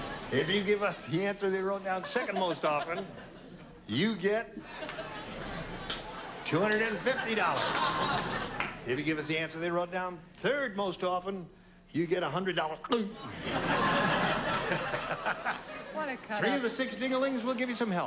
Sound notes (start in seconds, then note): 13.2 laughter